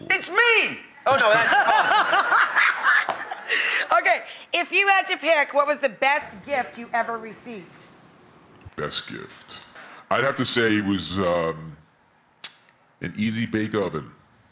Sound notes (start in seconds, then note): 1.2 laughter